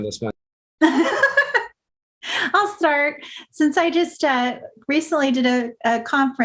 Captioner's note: laugh